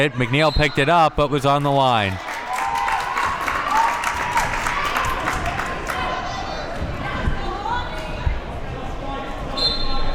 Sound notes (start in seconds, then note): 2.6 crowd cheers